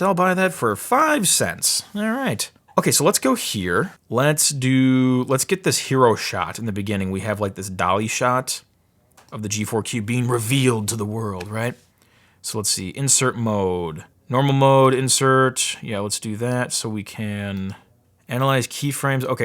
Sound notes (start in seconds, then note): none